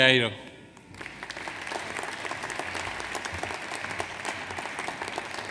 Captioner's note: audience applauds